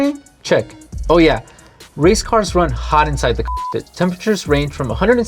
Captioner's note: beep